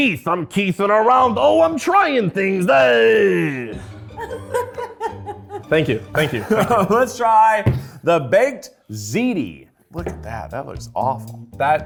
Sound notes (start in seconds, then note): 3.8 laughs